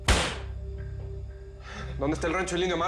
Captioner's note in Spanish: Golpes en la mesa